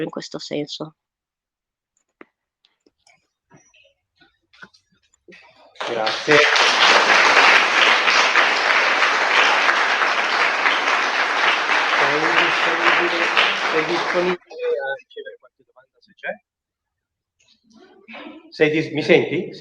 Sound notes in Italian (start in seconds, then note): 5.4 voce fuori schermo; 12.7 applauso